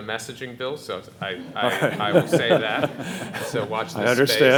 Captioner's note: all laughing